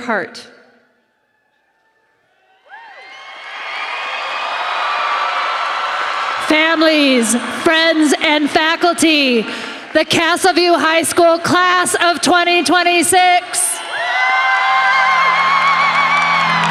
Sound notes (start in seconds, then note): 7.2 applause